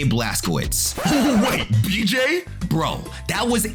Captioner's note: record scratch